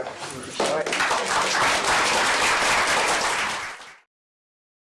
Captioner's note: applause